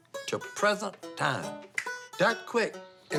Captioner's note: snaps